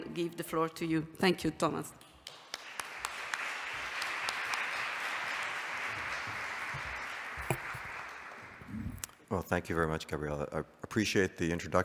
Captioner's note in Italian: Applauso